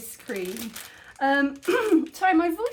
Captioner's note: clears throat